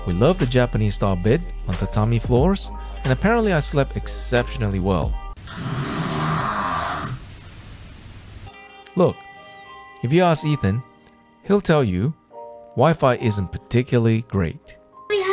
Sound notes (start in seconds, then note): 5.4 snore